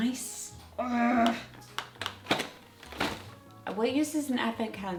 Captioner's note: groans